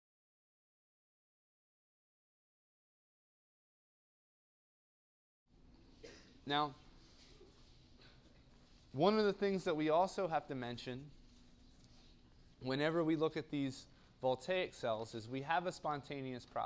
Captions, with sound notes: [COUGH]. >> Now one of the things that we also have to mention, whenever we look at these voltaic cells, is we have a spontaneous process